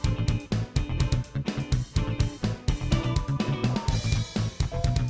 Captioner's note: none